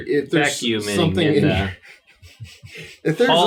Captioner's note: laughs